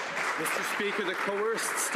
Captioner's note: some Applause